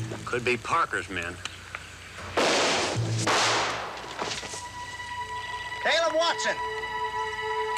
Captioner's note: gunshots